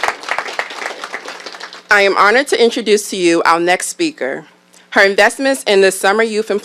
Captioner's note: applause